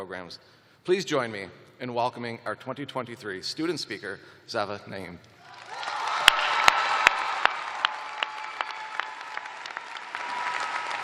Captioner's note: cheers and applause